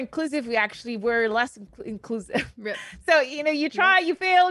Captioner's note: laughs